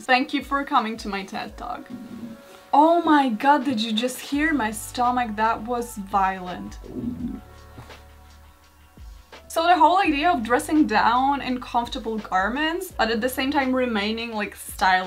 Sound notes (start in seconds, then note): 1.9 stomach rumbles; 6.7 stomach makes a sound of a demonic beast